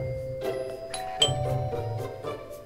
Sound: doorbell rings

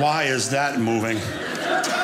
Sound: audience laughing

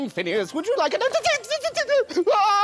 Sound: Distressed Mayor noises!

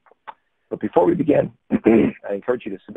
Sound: clearing throat

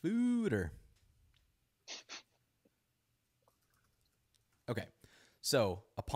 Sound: chuckles

